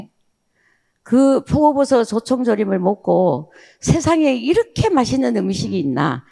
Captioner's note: speaking in foreign language